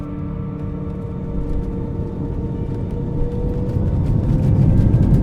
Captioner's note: plane engine drones